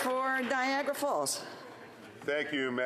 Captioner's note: some Applause